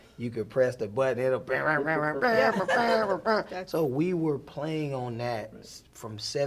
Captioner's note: vocalizing